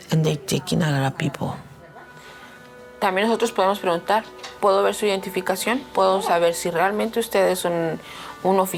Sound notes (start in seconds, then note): 3.1 speaking in Spanish